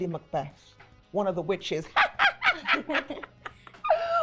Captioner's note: laughs